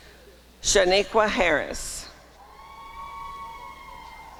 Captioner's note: applause and cheering